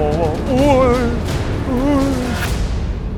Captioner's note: whimpers in 196cm